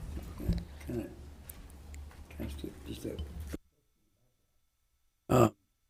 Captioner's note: whispers